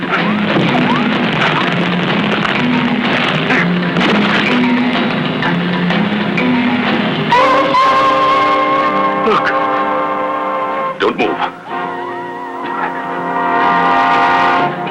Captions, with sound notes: (whacking) (dramatic music) Look! - Don't move. (dramatic music)